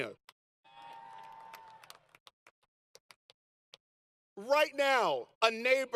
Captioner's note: applause & Light Laughter